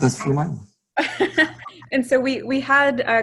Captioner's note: woman laughs